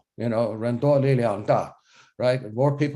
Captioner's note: speaks foreign language